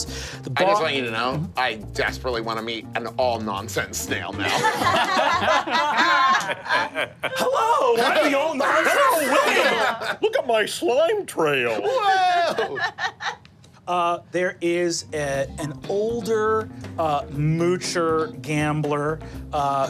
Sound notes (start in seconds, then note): 4.4 group laughing; 11.8 laughing